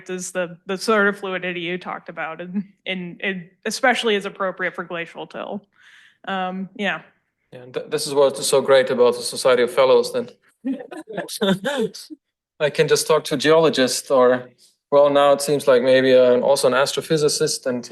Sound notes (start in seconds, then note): 10.7 people laugh